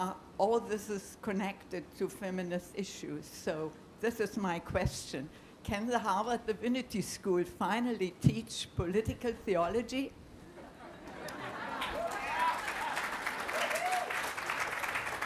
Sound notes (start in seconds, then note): 11.7 applause